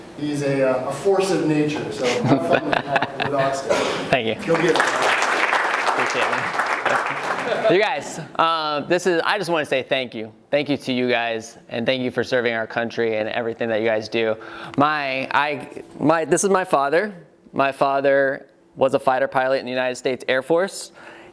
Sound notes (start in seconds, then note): 2.0 laughing; 4.4 applauding